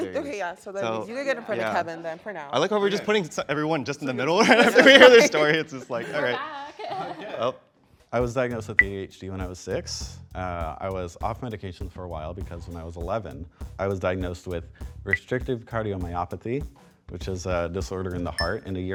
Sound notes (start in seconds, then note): 4.4 chuckling